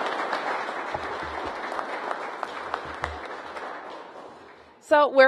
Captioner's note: applause